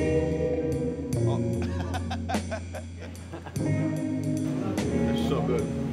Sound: laughs

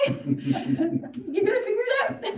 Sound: audience laughing

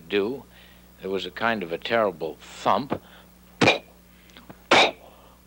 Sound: blowing

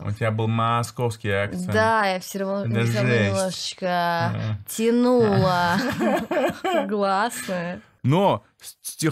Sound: talking with strong accent

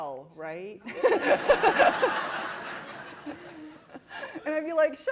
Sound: laughter

